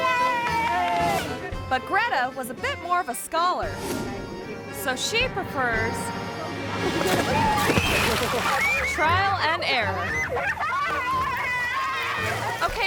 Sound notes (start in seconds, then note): 3.8 image whooshes; 6.4 water splashing; 8.4 woman screaming; 9.6 woman laughing